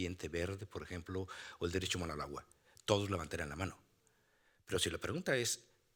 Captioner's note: speaking Spanish continues